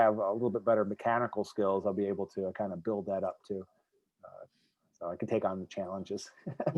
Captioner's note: laughs